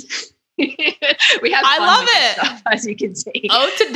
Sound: laughing

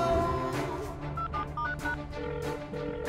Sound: beeping

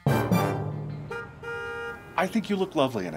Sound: car honking

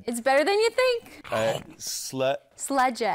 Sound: mouth gulps

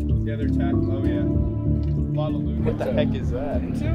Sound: soft music; crowd chattering

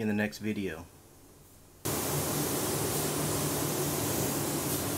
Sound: sprayer hissing

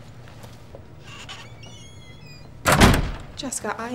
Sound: door squeaking, thudding

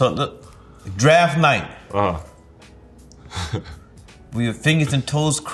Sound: RJ laughs

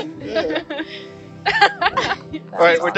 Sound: everyone laughs

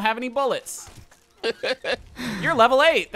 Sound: laughing

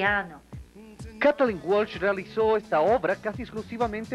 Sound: speaking Spanish

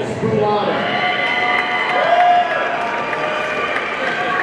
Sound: audience cheering

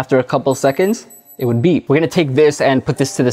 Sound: device beeps

